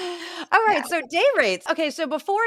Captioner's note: laugh